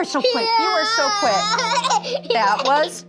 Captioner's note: student laughs